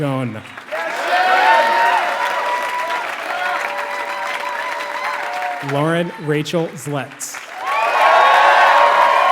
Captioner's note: applause